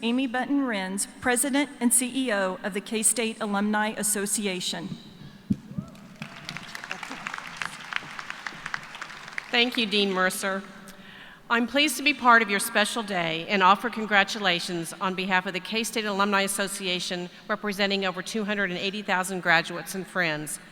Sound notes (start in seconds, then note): 8.1 applause